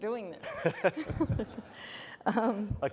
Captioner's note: laughter